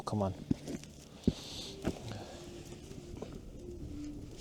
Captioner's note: sighs